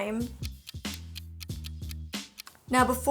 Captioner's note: clock ticking